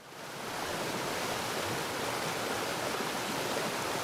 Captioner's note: water gushing